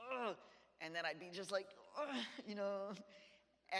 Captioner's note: groans; groans